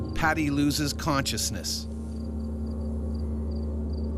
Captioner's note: voiceover